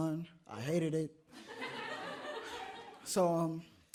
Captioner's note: audience laughs